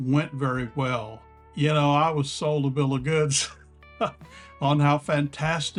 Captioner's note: laugh